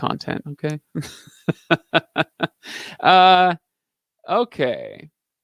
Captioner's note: laughing